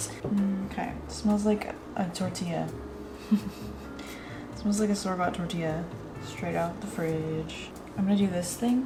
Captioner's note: laughs